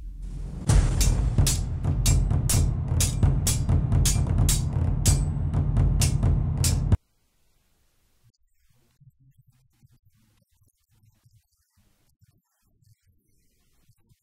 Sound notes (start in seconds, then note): 0.0 drums beat; 2.9 swords hitting each other